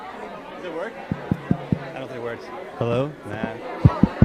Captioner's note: tapping